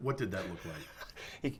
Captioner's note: laughing; laughter